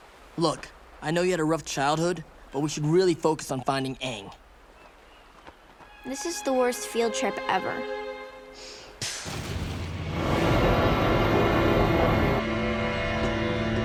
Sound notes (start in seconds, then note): none